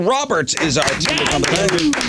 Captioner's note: applause